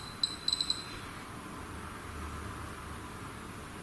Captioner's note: beeping